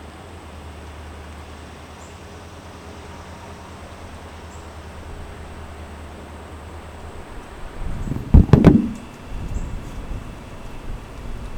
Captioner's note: wind blowing